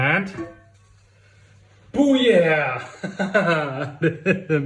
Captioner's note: laughs